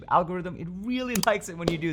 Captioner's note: button squeaking; button clicking